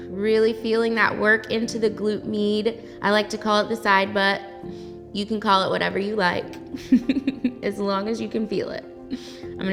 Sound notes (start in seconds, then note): 6.9 laughs